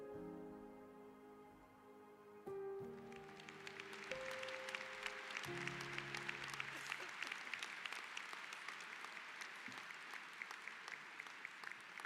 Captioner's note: applause